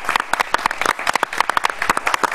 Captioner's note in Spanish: aplausos